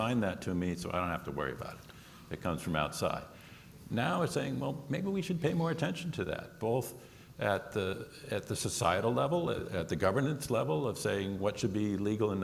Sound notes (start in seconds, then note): none